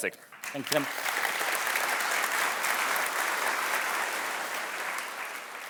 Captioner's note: audience applauding